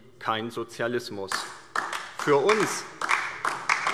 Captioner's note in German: Beifall DIE LINKE